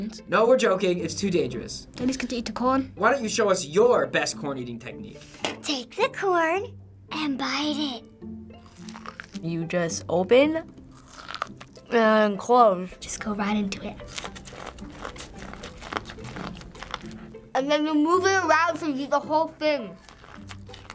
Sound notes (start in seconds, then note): 8.6 big crunch; 10.9 crunch; 11.3 mouth full; 14.0 crunching and squeaking; 17.5 mouth full